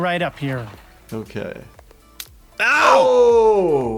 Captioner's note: Bob exclaims in pain